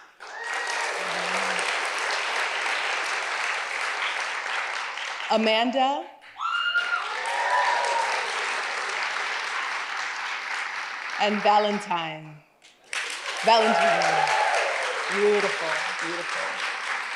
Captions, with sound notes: (audience applauds) Amanda. (audience applauds and cheers) And Valentine. (audience applauds and cheers) Valentine. Beautiful, beautiful.